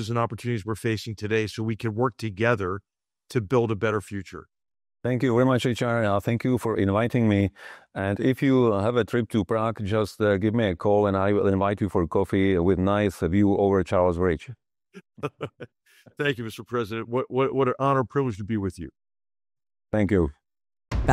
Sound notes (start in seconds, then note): 15.0 laugh